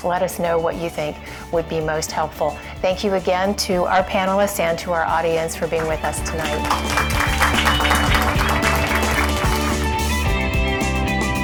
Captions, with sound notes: Let us know what you think would be most helpful. Thank you again to our panelists and to our audience for being with us tonight. (audience clapping) (upbeat music)